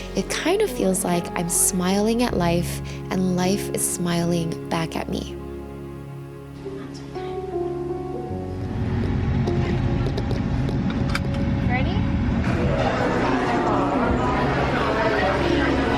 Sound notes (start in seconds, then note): 5.5 gentle music; 7.0 speaking faintly; 8.7 car engine purring; 9.6 seatbelt clanking; 12.4 crowd chattering